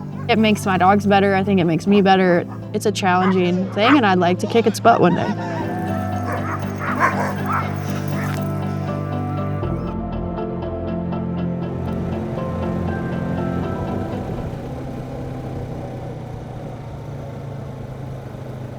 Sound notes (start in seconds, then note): 6.7 dogs barking; 9.1 calm music; 15.1 engine rumbling